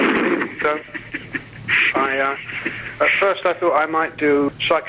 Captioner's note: interviewer laughing